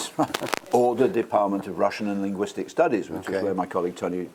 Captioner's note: laugh